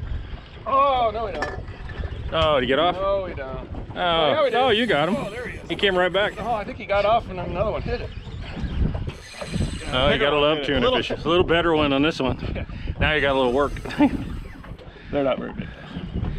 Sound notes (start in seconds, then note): 4.4 reel spinning; 9.0 reel cranking; 13.8 chuckling